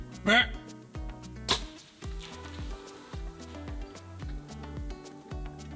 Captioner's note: deer bleats